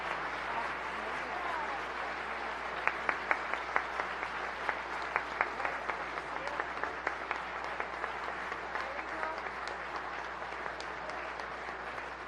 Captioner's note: applause